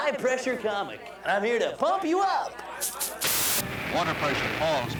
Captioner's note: air hisses